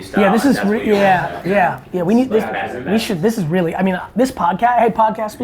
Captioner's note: group talking indistinctly